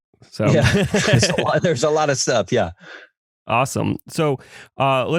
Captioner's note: laugh; laughs